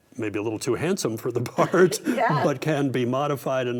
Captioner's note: both laugh